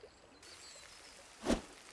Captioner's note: sizzling